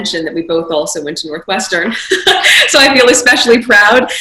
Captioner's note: chuckles